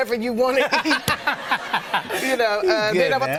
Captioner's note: laughter